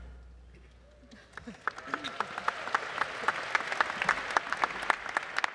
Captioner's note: applause